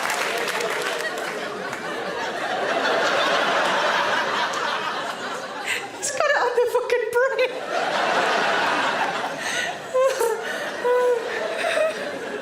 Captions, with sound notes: (audience laughs) He's got it on the fucking brain. (Sarah laughs)